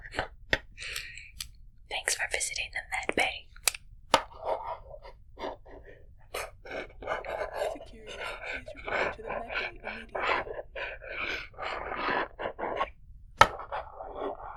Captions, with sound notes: Thanks for visiting the med bay! [voice over intercom] Security, please report to the med bay immediately.